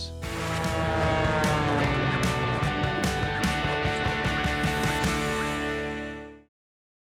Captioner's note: upbeat rock music; plane engine roaring